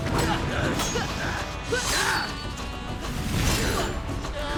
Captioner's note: grunting